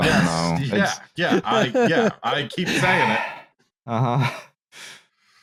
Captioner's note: sighs